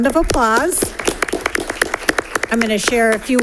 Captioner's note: audience applauds